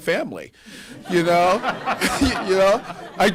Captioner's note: laughter